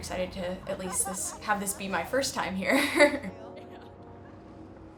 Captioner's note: laughs